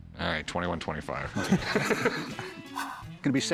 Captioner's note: laugh